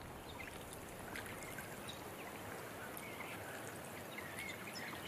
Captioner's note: birds chirping